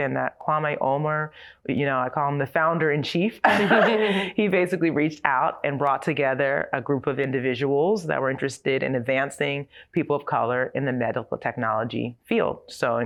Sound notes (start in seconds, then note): 3.4 laughter